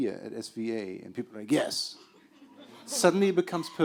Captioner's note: laughter